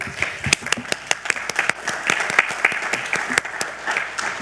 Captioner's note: attendees applauding